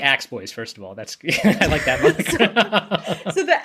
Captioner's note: laughs